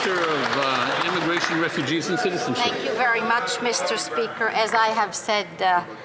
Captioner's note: some Applause